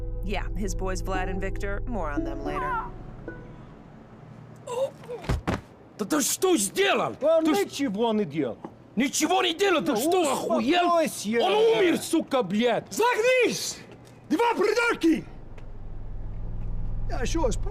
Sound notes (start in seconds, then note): 2.7 witness shrieks; 4.8 witness chokes; 5.0 witness thuds; 13.2 Boris speaks Russian